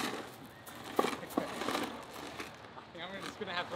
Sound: laughing

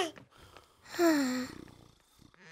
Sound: sighs

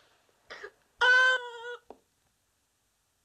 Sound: screaming

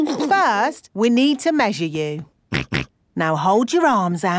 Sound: snorts

